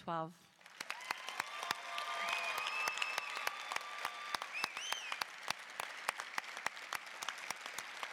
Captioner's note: applause, cheering